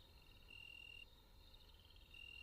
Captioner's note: crickets Chirping